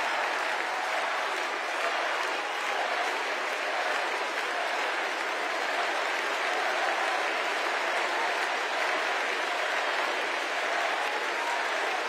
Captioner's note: cheers and applause; crowd chanting